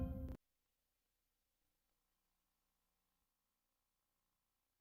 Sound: silence

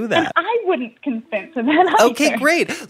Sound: laughing

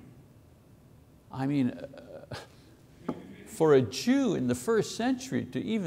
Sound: chuckles

